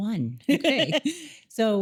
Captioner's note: laughing